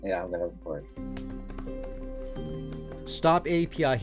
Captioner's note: keyboard clicking